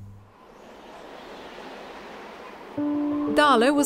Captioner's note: wind howls